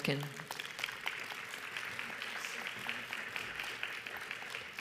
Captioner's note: audience applauds